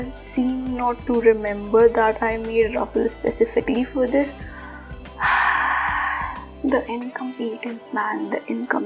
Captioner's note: deep breath